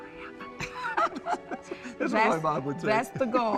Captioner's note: laughing